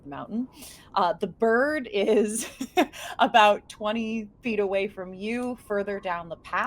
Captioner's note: chuckles